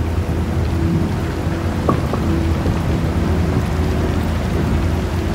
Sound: water splashing

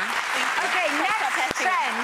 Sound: audience clapping

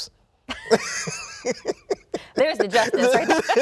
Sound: both laughing

